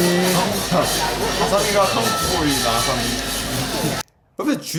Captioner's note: eating